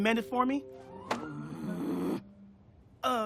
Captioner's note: groaning